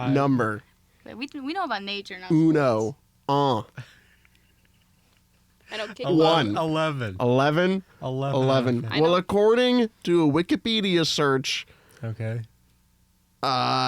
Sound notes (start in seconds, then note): 3.7 laughing